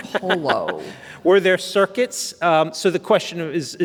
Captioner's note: laughs